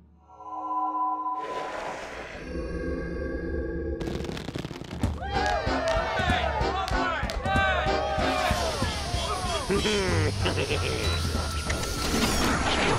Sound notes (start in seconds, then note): 5.3 cheers and laughter; 9.6 chuckles